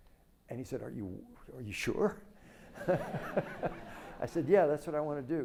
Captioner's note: laughs